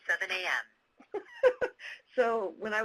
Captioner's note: laughing